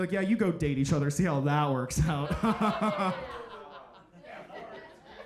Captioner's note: laughs